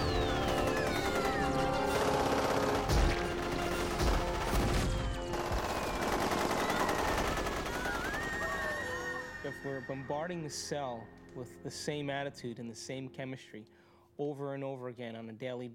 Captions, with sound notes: [ Gun Fire Continues ] [ Screams ] IF WE'RE BOMBARDING THE CELL WITH THE SAME ATTITUDE AND THE SAME CHEMISTRY... OVER AND OVER AGAIN ON A DAILY BASIS,